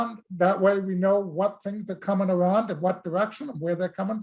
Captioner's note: none